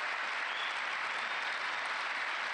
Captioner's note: applause